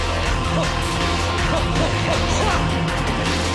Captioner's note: grunting rhythmically